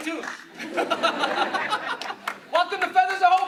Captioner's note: clapping and cheering; laughing